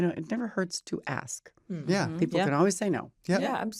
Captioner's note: all agreeing